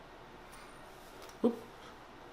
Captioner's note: soft clinking